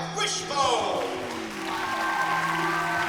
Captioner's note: cheering